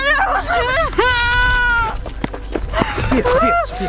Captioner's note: woman crying